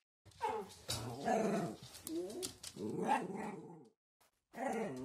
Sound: dog Growling

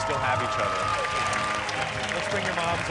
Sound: applause

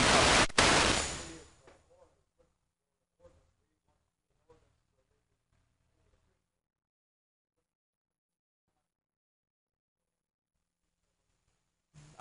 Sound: microphone interference

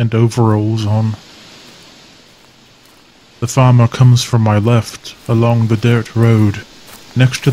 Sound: sound of footsteps approaching from left

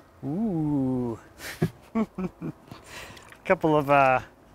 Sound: laughs softly

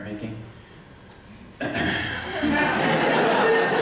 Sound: laughter

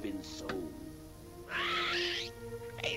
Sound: parrot gawking

